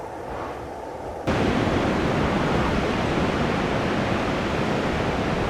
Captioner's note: blizzard roaring